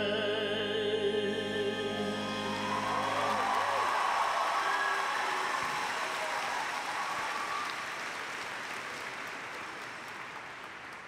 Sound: cheers and applause

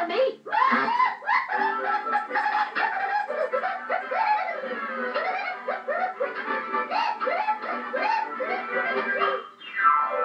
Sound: whooping

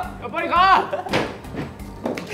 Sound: laughing machine; laughing again

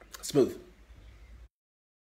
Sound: drinks

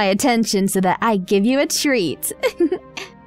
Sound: laughs

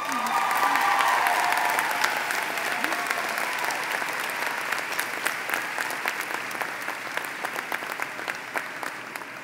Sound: applause; speaking Spanish

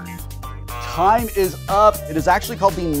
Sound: buzzer buzzing

